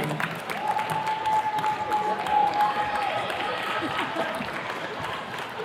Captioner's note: attendees cheers and claps